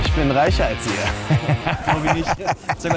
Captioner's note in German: lacht